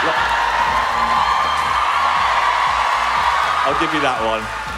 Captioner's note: audience cheering